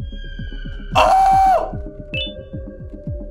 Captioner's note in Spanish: Sorprendido